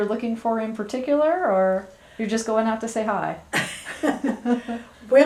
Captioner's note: laughter